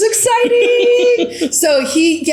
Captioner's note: laughs